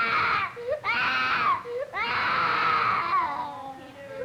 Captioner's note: screaming